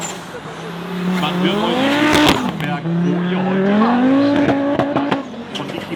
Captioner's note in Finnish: moottorin ääniä